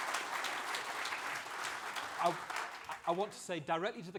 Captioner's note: applause